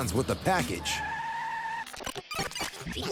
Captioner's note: tires squeal; tape rewinding